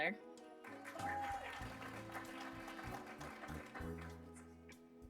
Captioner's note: applause